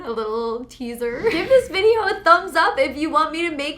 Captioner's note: air whooshes